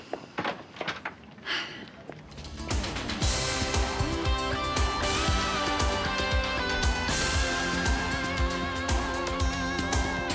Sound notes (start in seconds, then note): 1.4 Amanda sighs; 2.4 upbeat music